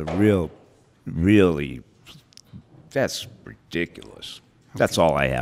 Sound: scoffs

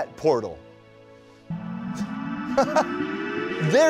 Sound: whirring sound

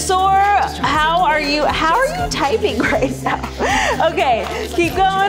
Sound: chuckles

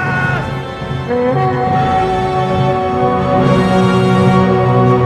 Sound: horns sounding

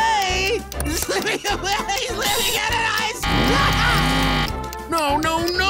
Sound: laughing

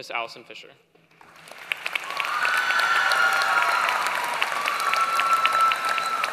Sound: applause

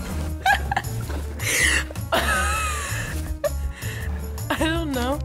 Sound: laughing

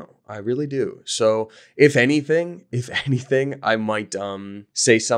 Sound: laughing

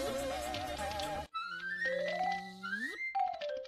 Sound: buzzing and music; buzzing

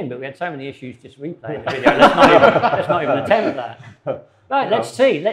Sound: collective laughter

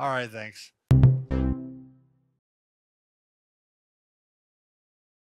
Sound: electronic note sounds

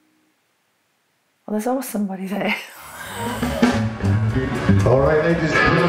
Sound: laughs

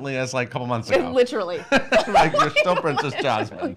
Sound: laughing

